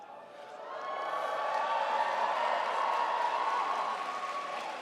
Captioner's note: crowd applauds